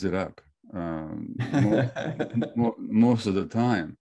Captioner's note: laughs